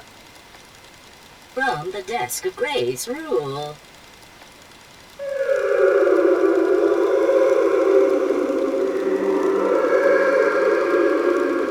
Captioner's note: whale song